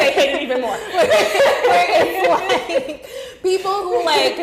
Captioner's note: laughing